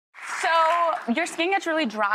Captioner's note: applause